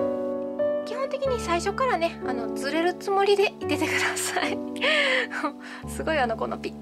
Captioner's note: laughs